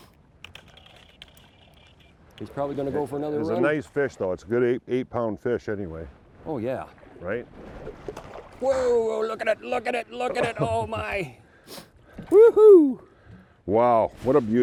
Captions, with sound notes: He's probably gonna go for another run. - He's a nice fish though, a good eight pound fish anyway. - Oh yeah. - Right. - Whoa! Look at it, look at it, look at it. Oh my! (excited exclamations) - Wow, what a beauty.